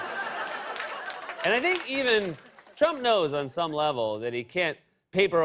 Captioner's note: laughter; normal voice